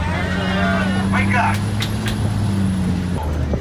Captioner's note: clap, clap, clap!